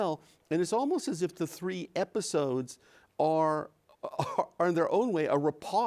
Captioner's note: chuckles